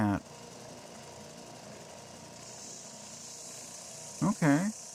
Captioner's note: sander sounds